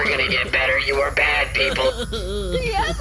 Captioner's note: a prisoner sobs